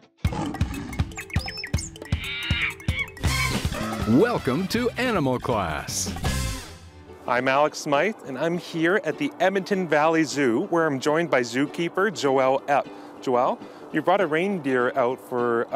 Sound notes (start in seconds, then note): 0.2 growl; 1.0 tweet; 1.8 monkey screech